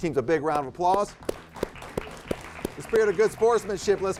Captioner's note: crowd applauds